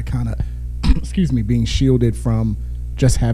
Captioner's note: sneezes